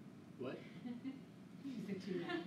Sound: laughing

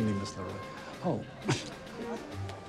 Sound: chuckling

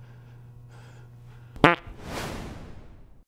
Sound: fart - Whoosh!

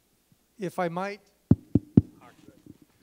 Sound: tapping

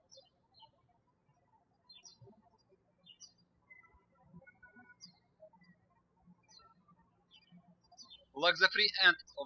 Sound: birds chirping

